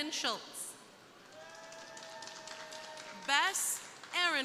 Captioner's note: crowd applauding